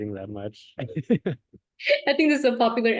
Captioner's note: laughter